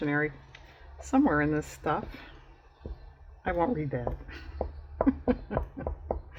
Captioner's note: laughs